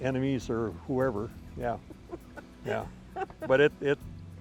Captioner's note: laughing